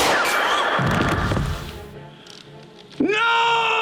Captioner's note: Karen gasps; bullet whizzes; body thuds